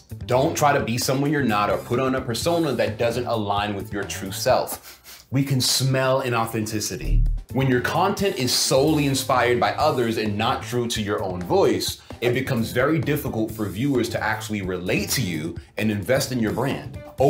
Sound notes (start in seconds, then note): 4.8 sniffs